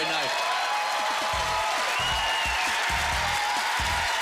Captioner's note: applause